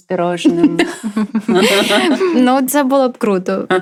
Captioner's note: laughter